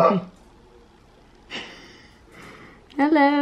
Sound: gasping

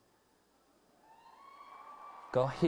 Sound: cheering

